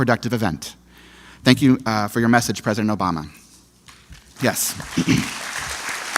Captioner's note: applause